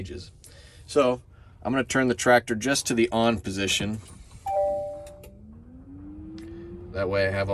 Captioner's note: tractor beeps